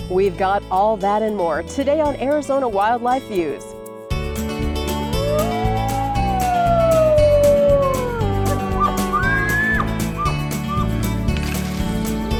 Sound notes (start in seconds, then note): 4.9 wolf howling; 8.5 elk bugling